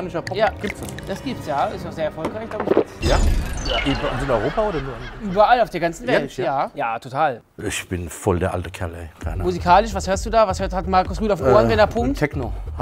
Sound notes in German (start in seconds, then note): 3.2 Schluckgeräusche